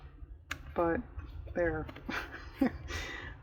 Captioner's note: laughs